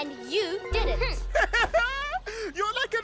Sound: laughs

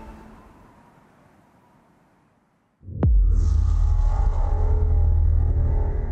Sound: transition sound

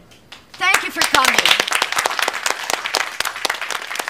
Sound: all applauding

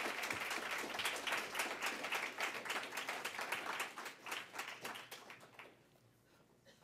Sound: applause

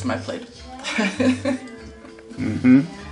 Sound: laughs

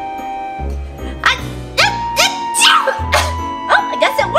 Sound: sneezing

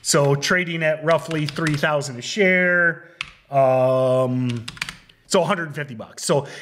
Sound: keyboard clicking; keyboard clicking

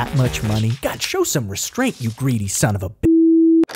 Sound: beep

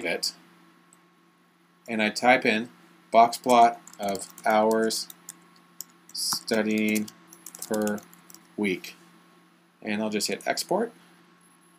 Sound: typing

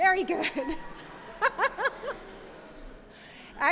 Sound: laughter

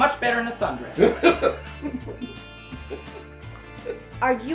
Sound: laughing

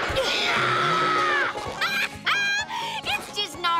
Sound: laughs

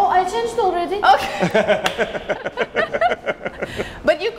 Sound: laughing

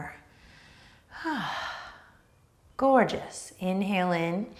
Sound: sighs

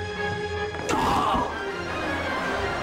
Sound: groaning

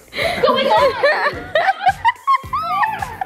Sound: girl laughs

